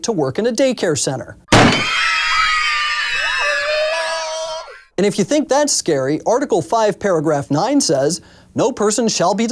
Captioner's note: screams